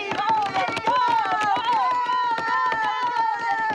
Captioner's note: cheering